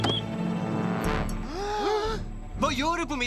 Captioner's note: whistling; both gasp